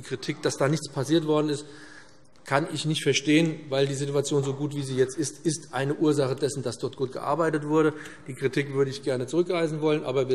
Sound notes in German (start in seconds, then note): none